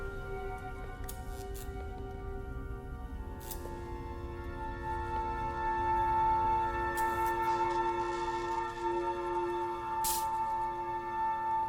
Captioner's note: electric buzzes